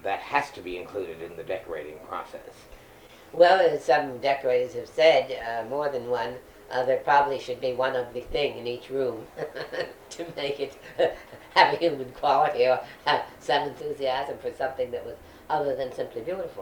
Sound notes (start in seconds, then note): 9.0 laughs